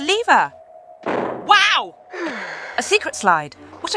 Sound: trapdoor sound

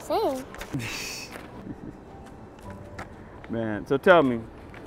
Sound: James chuckles

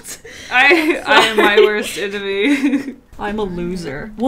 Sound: laughs

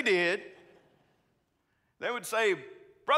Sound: congregants laughing

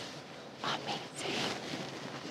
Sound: whispering

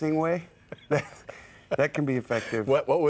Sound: laughs

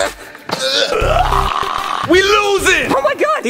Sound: both grunting; snarling

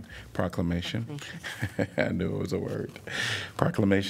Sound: laughter

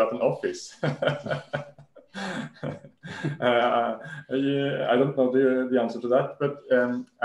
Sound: laughs

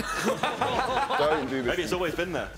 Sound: laughing

